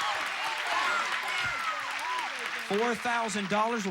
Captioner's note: audience applauding